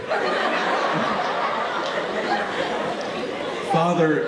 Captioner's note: audience laughing